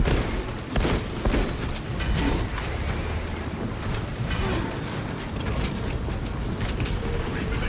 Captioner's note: gunfire